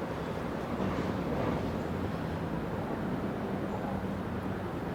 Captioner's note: traffic sounds nearby